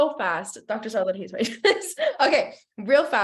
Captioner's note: chuckles